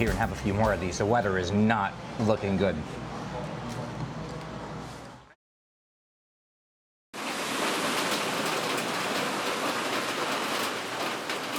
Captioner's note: rain sounds